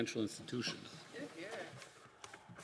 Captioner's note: some Applause